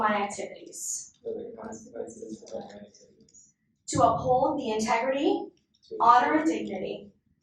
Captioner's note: inductees repeat